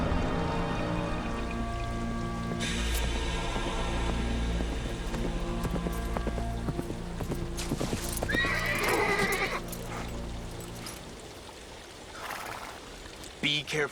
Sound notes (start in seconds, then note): 3.2 horse galloping; 8.0 horse whinnies